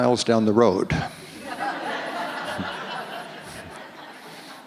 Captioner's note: audience laughs